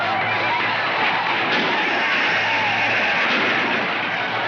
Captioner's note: gunshots firing